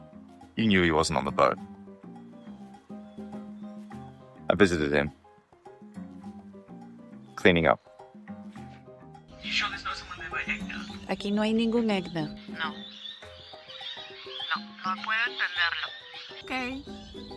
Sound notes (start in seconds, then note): 10.7 speaker speaks in foreign language